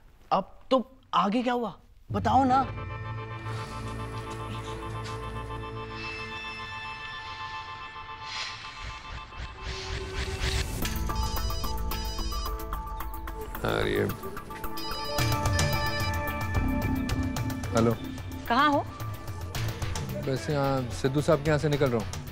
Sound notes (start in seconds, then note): 11.1 phone ringing; 14.6 phone ringing